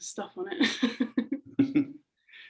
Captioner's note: laughing